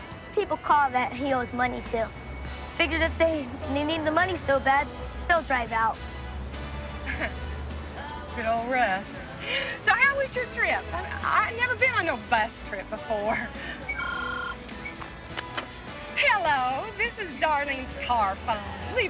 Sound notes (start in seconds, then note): 13.8 phone ringing